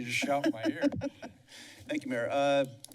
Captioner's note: laughter